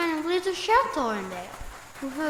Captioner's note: walking sounds